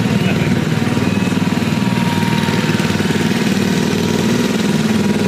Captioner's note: ride engine rumbling